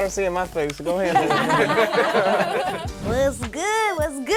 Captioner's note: laughing